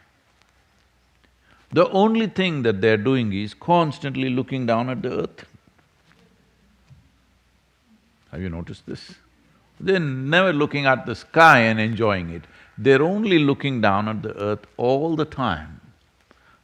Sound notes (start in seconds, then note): none